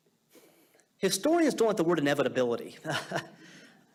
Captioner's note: chuckling